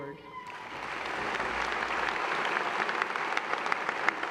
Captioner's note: applause